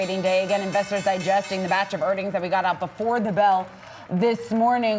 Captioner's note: bell ringing